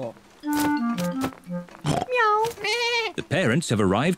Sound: all makes animal sounds

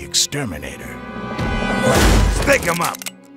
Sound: door breaking

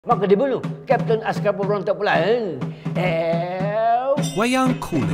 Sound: man speaking foreign language

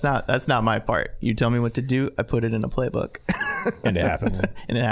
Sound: laughing

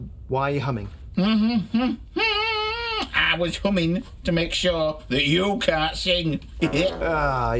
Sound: humming

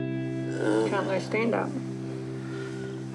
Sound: groans

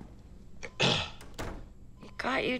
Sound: door closes; clears throat

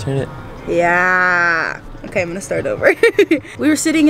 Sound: laughing

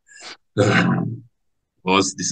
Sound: sighs

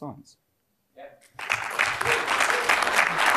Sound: applause

